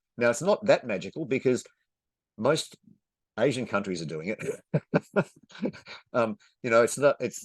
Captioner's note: chuckles